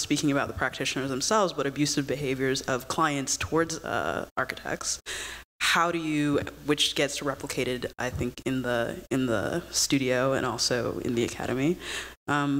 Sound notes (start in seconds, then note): none